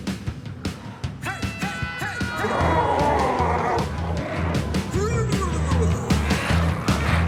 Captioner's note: glowzies growling